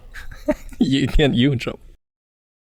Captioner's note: chuckles